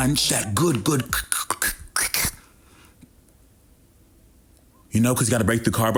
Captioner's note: imitates crunching